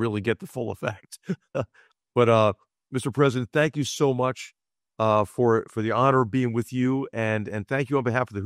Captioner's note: laugh